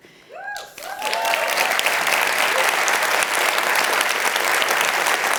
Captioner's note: crowd cheers and applauds